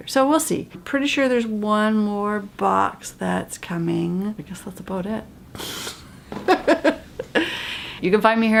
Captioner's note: laugh